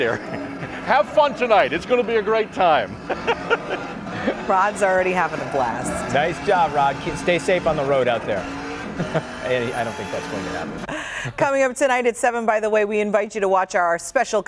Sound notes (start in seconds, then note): 7.3 laughter